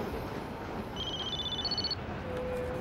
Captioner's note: phone rings